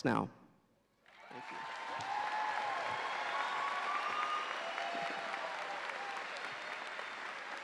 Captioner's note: audience cheering